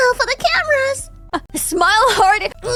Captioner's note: laughs